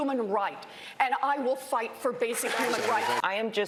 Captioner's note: crowd cheering